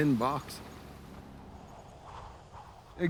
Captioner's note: wind whipping